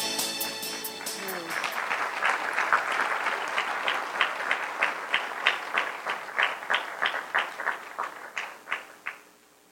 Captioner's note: applause